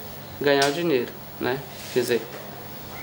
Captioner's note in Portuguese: sons de movimentações na rua